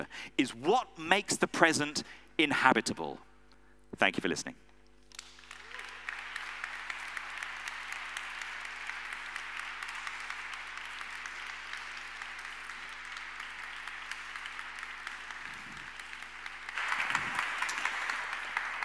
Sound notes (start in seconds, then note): 5.0 audience member cheers; 5.1 audience applauding